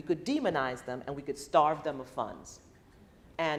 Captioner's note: none